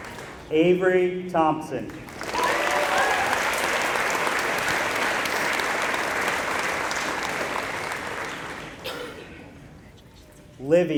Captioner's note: applause